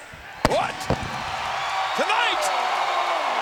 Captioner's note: audience cheers